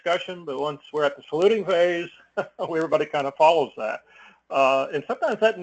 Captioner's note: laugh